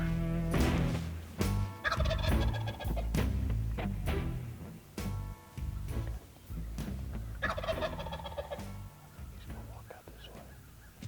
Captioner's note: whispering